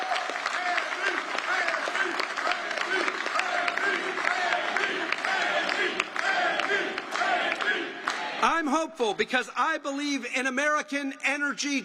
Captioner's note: applause